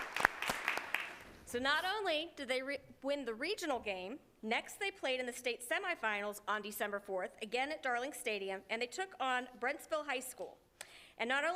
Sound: applause

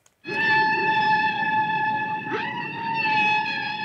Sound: screeching

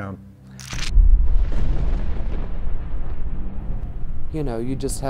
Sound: thunder rumbles

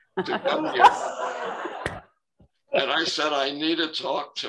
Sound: laughter

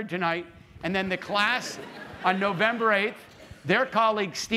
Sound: laughter

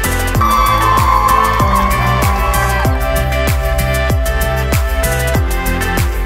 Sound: upbeat music; students cheer

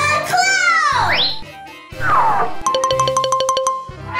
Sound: slight whooshing; bells twinkling

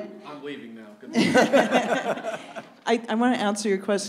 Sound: audience laughs

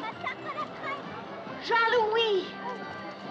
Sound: boy Chattering In French

